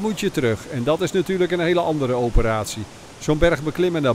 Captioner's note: voiceover